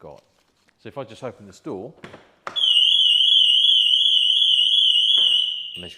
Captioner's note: alarm goes off - click